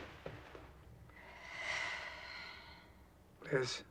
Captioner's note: liz sighs